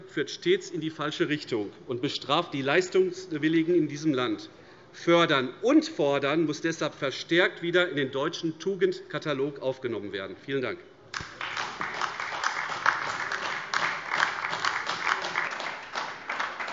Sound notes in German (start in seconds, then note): 11.1 Beifall AfD